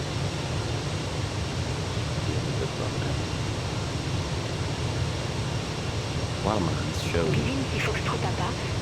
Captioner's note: radio chatter